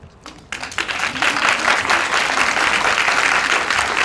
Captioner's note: applause